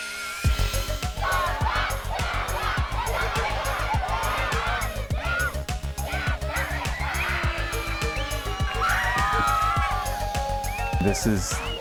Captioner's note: kids chanting and cheering